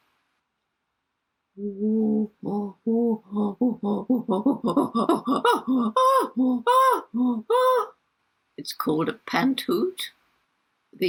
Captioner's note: chimpanzee sound